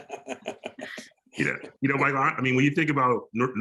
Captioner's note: laughs